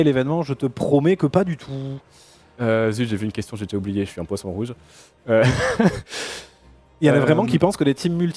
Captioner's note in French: rires